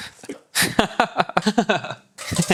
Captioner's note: laughs